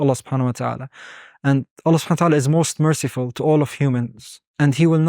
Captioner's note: speaking Arabic